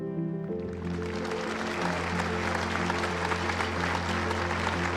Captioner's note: audience applauding